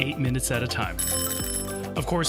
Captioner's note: bell ringing